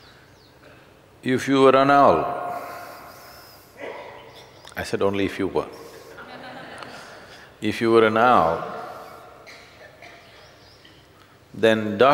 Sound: laughter

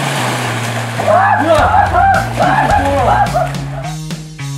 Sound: screaming

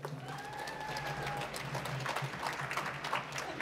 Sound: applause

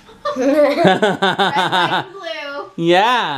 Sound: laughs

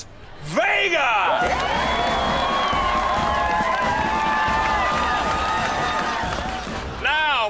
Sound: cheering

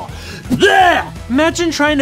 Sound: retches

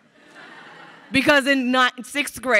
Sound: crowd laughing

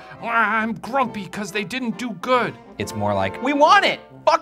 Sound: none

